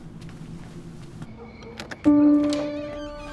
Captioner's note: door opens